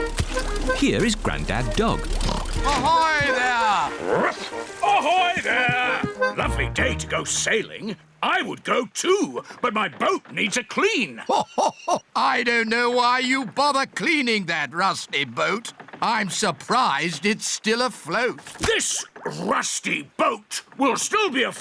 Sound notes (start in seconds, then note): 2.1 oinks; 3.5 barks